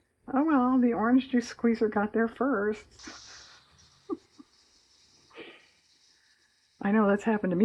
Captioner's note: laughs